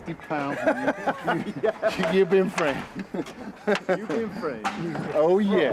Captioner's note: laughter